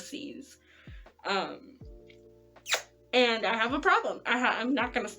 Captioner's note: lip smack